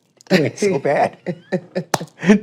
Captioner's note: laughs